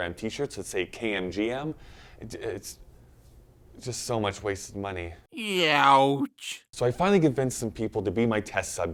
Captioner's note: baby crying